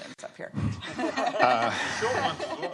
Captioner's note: laughter